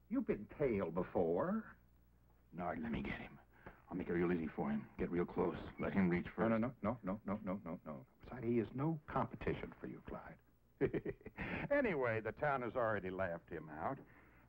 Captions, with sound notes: - You've been tailed before. - Nard, let me get him. I'll make it real easy for him, get real close. Let him reach first. - No, no, no, no, no, no, no, no. Besides he is no competition for you Clyde. (laughs) Anyway, the town has already laughed him out.